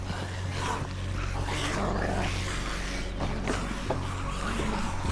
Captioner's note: zombies snarling